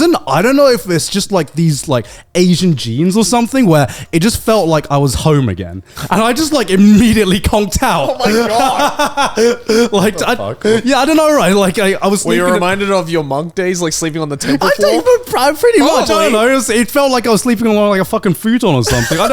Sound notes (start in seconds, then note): 7.9 laughs